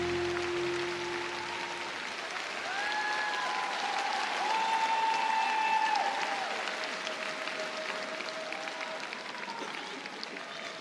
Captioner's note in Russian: аплодисменты